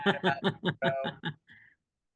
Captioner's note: laughing